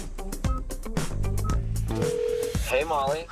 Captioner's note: beeping; phone ringing